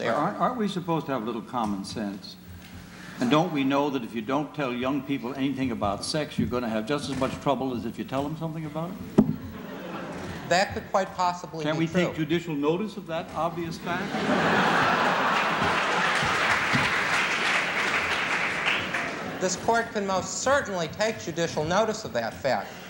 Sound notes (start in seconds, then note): 9.4 laughter; 17.1 laughter; 18.3 applause